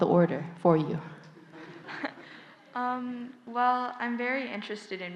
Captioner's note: audience/Questioner Laughter